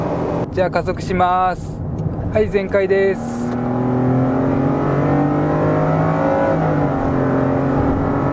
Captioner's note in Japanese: エンジンサウンド